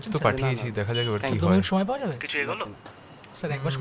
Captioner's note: indistinct chatter